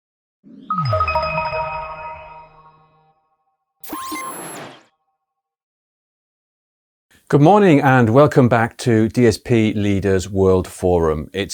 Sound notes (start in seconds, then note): 0.6 logo chimes; 3.8 logo beeps